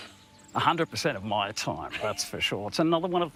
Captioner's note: laughs